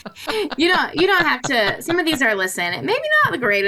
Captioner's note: laughs